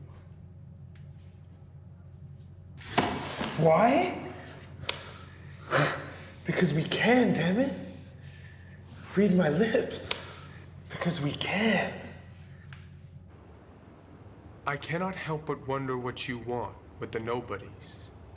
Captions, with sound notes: Why? (slap) Because we can, damn it. Read my lips. Because we CAN. I cannot help but wonder what you want with The Nobodies